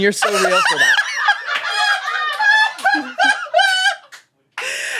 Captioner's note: laughs